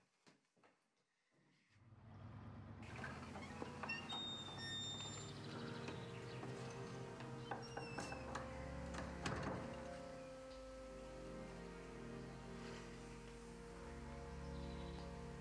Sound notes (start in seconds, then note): 3.0 door squeaking; 6.1 dramatic music